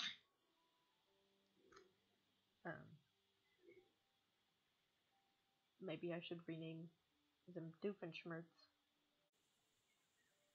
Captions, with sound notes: (giggling ceases) Eh. Maybe I should rename...them Doofenshmirtz.